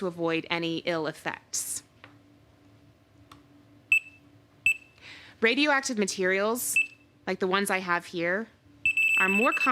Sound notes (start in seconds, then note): 3.9 beeping